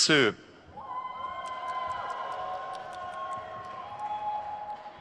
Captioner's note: crowd cheers